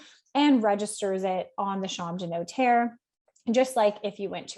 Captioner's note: speaks French